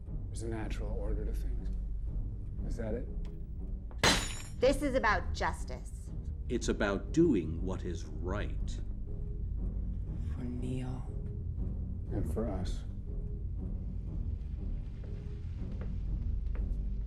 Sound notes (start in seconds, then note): 4.0 hand banging on table; 12.1 dramatic orchestral music